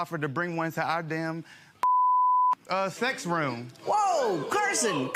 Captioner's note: beep